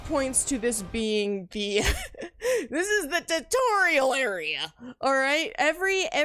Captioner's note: laughs